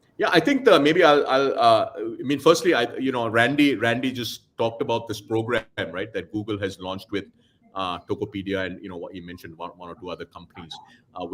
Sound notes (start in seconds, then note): none